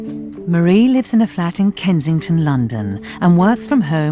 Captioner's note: voiceover